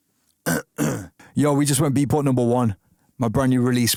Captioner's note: clears throat